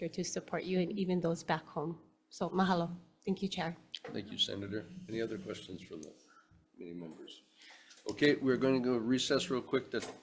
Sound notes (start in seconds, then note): none